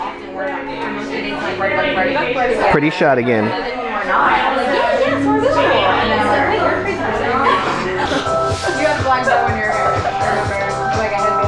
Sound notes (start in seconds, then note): 3.0 women murmuring in background; 8.7 upbeat music